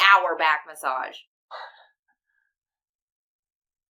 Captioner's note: chuckles